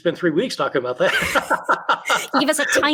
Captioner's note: laughing